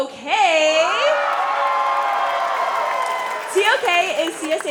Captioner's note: cheering